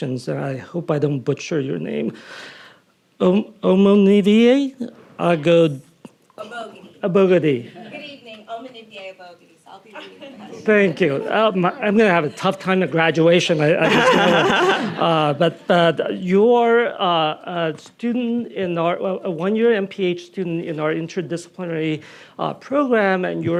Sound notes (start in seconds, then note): 13.7 Nadine laughing